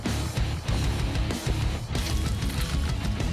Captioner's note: squishing